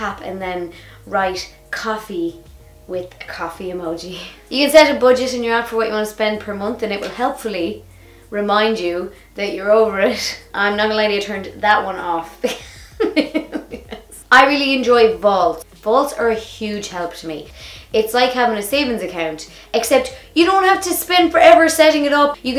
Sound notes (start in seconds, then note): 12.5 laughs